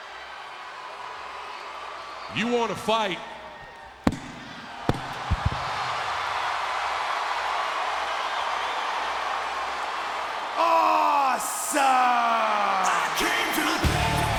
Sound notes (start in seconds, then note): 4.0 mic dropping; 5.8 crowd cheering; 13.8 upbeat music